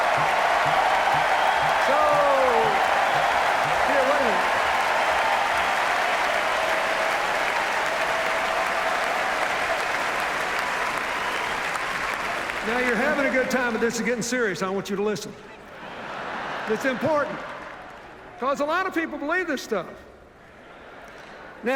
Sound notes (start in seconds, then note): 6.2 sustained cheers, applause; 15.7 laughter